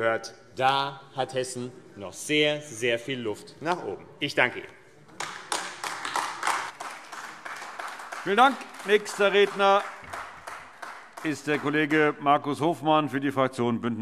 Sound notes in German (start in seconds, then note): 5.1 Beifall AfD